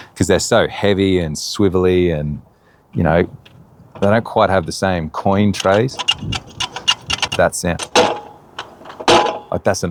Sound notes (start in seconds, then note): 5.3 lever squeaking; 8.5 metal clanks